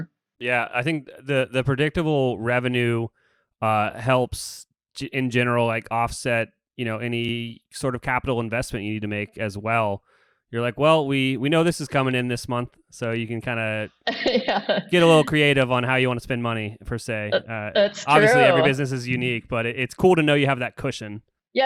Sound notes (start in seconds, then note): 14.1 laughs